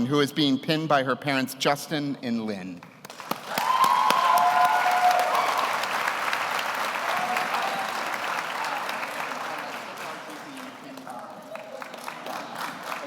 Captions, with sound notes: who is being pinned by her parents, Justin and Lynn. (audience cheers) (audience applauds)